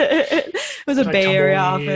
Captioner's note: laughs